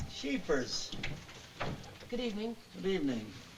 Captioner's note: door opens